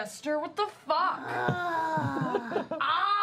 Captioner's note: growls